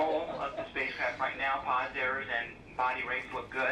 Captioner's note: people laughing